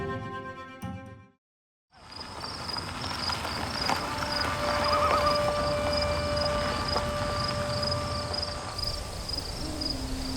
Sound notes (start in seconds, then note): 1.9 tires on gravel; 6.2 bird and insect sounds